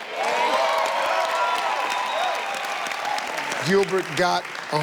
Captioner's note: audience cheers